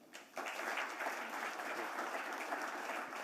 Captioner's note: applause